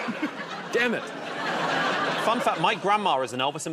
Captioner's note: laughter